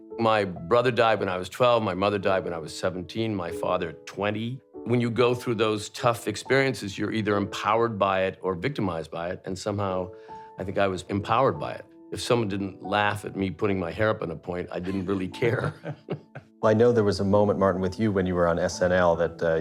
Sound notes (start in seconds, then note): 14.8 laughter